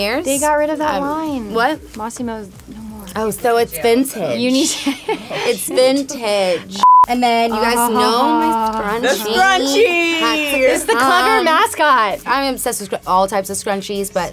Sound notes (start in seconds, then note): 4.5 laughs; 6.8 beep